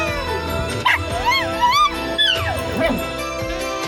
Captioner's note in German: zischt und jault dann; bellt und heult dann